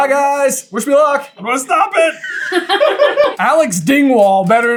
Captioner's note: laughter